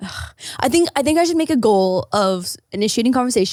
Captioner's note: sighs